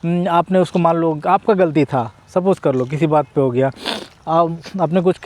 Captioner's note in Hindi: नाक से की जाने वाली आवाज़